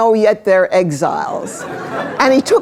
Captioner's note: laughter